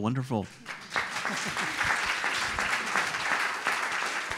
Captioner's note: audience applauds